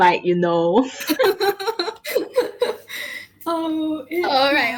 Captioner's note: laughs